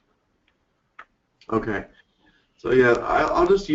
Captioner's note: voiceover